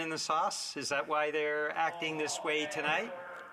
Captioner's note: mixed voices